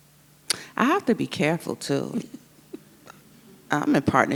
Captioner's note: chuckles